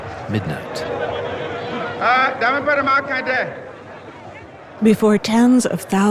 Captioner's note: speaking in foreign language